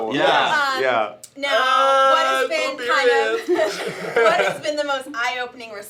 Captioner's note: laughter